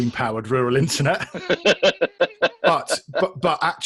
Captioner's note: both laugh